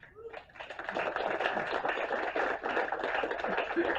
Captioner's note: applause